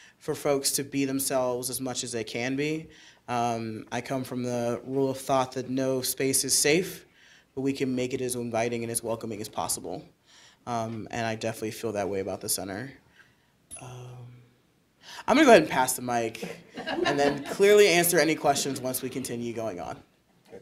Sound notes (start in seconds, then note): 16.4 audience chuckling